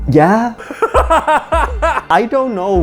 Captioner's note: laughing